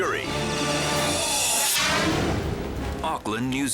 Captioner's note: air whooshes